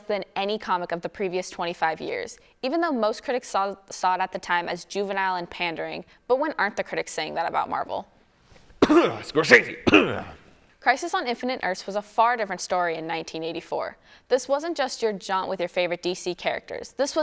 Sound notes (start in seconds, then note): 8.8 coughs